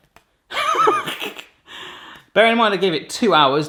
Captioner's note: laughing